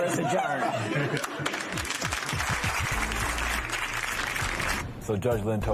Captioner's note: laughter, applause